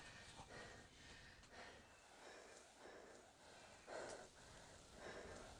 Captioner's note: Andrea breathing heavily